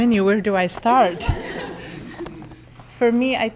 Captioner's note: laughter